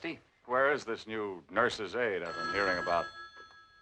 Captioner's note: phone Rings